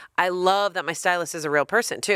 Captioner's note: none